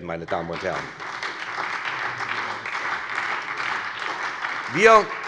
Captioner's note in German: Beifall bei der SPD